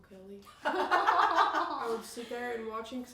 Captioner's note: all laugh